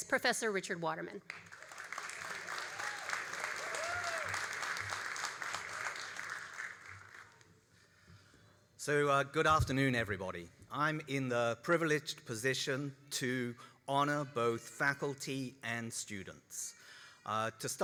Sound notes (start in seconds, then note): 1.2 all applauding and cheering